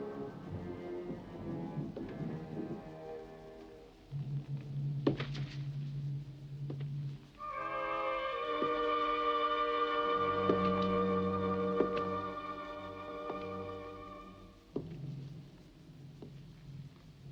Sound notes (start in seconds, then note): 1.8 footsteps tapping